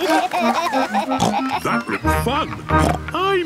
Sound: giggling; snorts; snorts

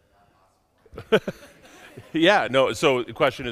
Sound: laughs

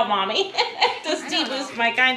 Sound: laughing

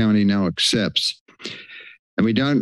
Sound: breathes

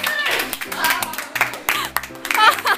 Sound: clapping hands~

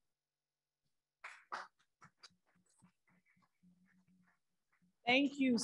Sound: audience applauding

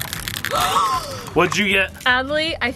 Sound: gasps

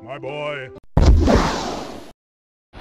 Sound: fwoosh

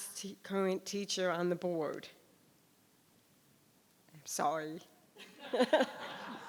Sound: laughs

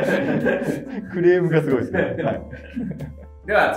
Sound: laughing

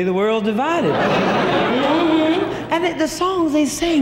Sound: audience laughing

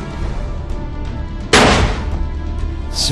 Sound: gunshot

